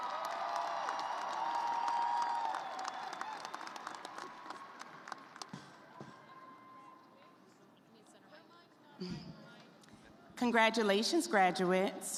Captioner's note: cheers and applause